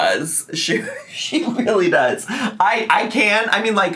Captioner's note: laughs